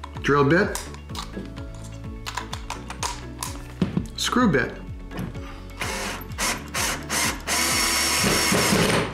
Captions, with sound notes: Drill bit. (clicking) Screw bit. (drill buzzing)